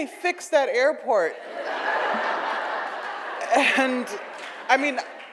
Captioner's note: audience laughs